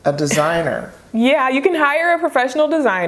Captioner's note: chuckles